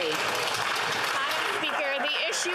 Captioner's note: applause